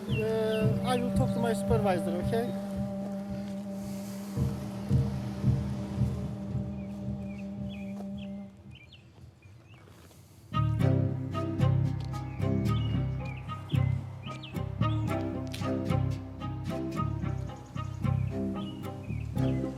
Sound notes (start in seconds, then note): 3.4 birds chirping; 10.5 dramatic music